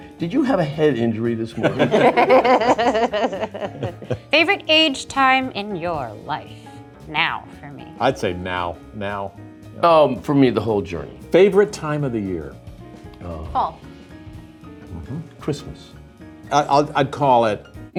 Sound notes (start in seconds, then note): 1.6 everyone laughs